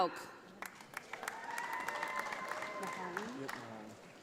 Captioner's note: audience applauding